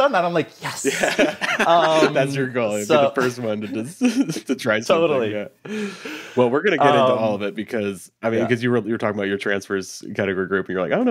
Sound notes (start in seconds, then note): 0.8 laughing